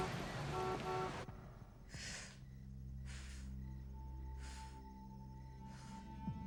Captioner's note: horn honks; Jill inhales and exhales